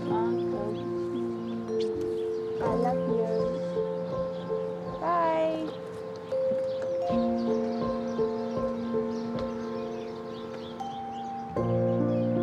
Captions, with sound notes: (KISSES) I love you. Bye. (GENTLE MUSIC CONTINUES)